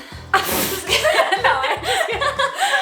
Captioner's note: laughter